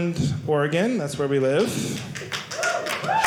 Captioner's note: audience applauding